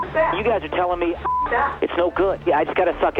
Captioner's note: beep